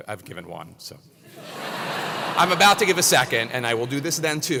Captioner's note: laugh